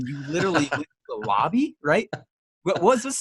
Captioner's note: laughs